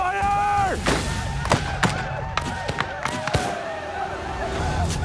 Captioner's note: gunfire